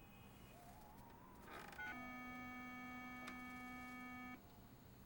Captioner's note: beeping